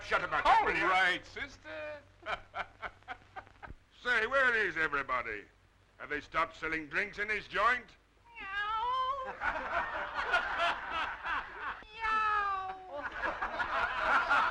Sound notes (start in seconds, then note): 2.2 laughing; 8.0 crowd laughing; 8.2 Chuck mimicking meowing